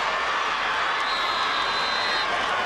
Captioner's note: whistle